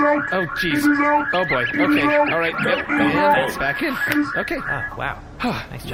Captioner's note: squeaky noises